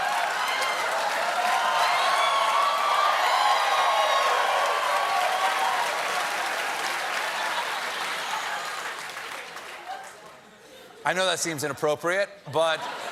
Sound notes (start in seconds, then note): 0.0 cheers and applause; 1.4 laughter